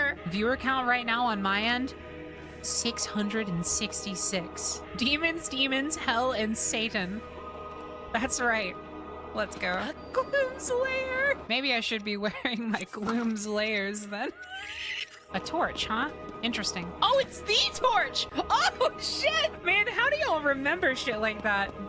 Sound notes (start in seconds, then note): 9.9 laughing; 14.8 wheeze